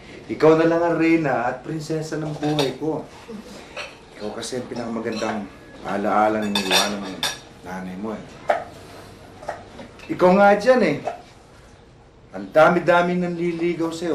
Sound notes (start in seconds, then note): 3.2 Jasmin chuckles